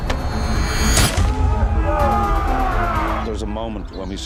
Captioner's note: men yelling